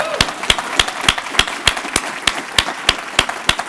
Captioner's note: applause